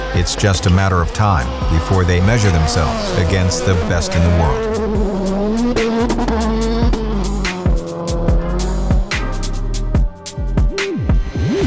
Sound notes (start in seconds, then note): 5.1 car engine revs; 8.1 lively music